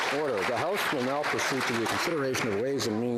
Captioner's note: applause